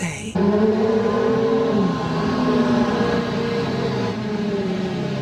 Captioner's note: engine rumbling